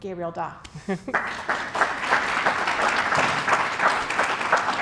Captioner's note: audience applauds